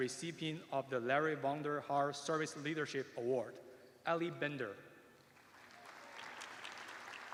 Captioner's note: applause